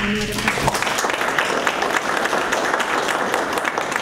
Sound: applause

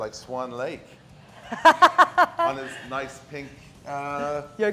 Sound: laugh

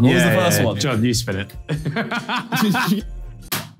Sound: laughs

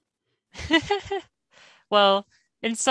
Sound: laughing

